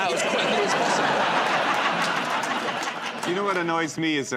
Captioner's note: laughter